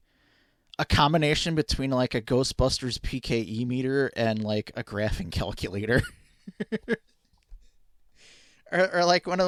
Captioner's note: laughing